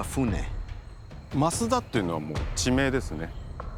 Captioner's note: speaking Japanese